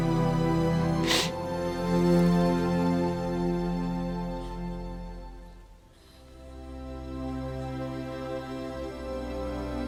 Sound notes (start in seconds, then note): 1.0 sniffs